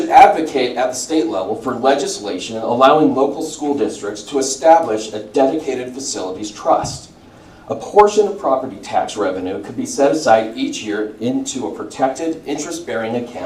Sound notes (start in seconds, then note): none